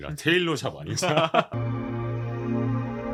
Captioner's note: laughter